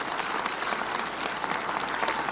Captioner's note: applause